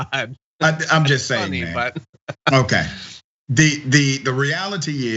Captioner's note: laugh